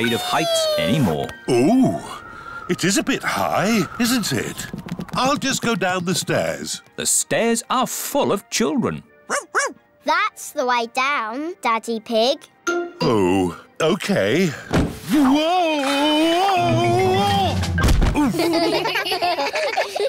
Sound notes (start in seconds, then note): 9.2 barks; 17.8 thud; 18.1 all giggle